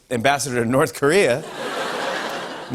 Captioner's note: laughter